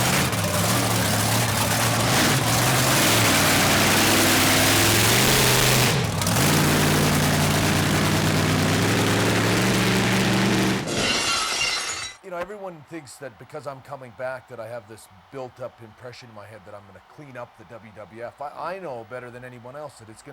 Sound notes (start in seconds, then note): 4.4 monster truck engine roars; 10.8 glass shatters